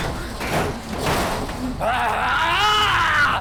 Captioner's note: panting